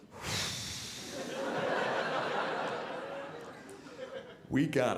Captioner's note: audience laughing